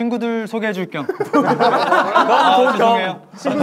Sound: group laughter

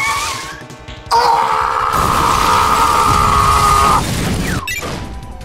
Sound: warrior scream

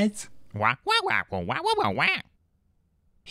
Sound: squawking excitedly

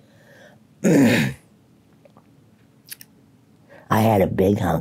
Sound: clearing throat and smacking lips

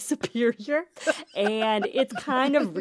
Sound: laughter

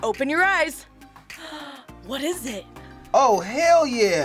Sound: gasps

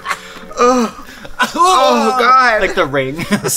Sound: both groaning; laughs

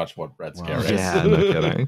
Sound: chuckles

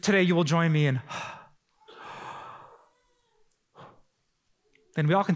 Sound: deep Breath

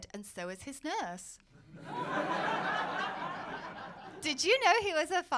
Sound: laughter

